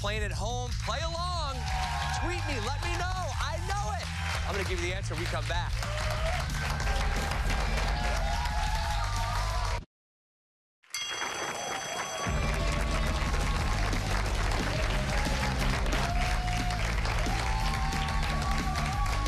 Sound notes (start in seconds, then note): 10.9 bell rings; 11.0 cheers and applause